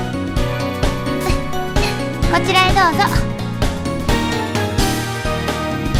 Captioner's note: giggles